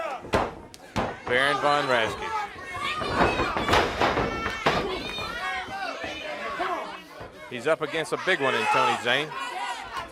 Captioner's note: crowd chatter